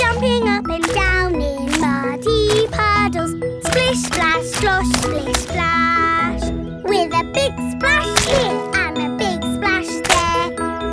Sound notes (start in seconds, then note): none